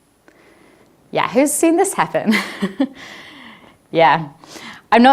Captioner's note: laughs